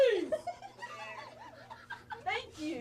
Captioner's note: woman laughs